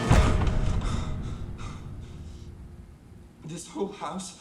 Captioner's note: hard breathing